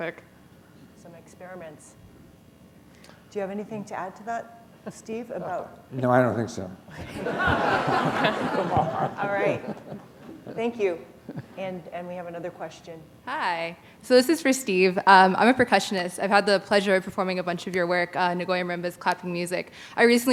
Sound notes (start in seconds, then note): 11.2 laughter